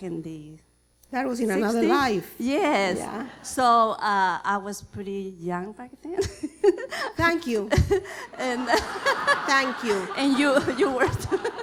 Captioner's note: laughter